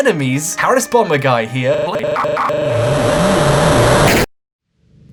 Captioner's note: digital distortion; unsettling music